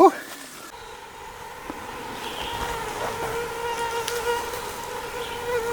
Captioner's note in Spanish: zumbido de mosquitos